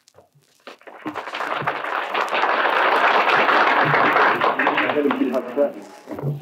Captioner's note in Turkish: Alkışlar